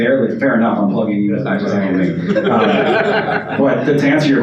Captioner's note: audience laughs